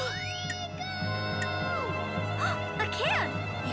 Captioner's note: dramatic music; gasps